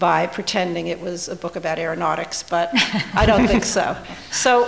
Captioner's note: laughter